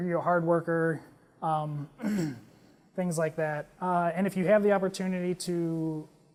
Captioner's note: cough